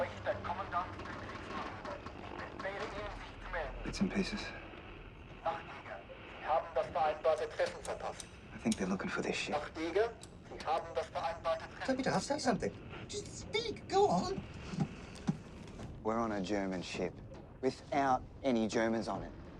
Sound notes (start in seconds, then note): 0.2 man speaking in foreign language; 5.2 man speaking in foreign language; 9.6 man speaking in foreign language